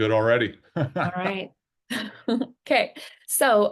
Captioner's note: chuckles